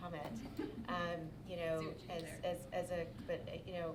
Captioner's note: laughing